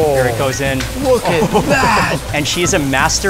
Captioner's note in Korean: 웃음